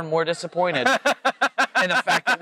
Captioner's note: laughs